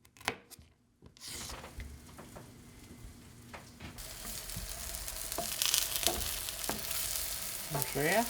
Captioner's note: frying